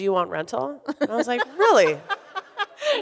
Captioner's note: laughs